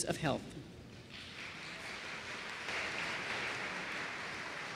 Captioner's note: applause